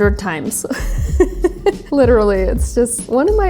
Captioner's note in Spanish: se ríe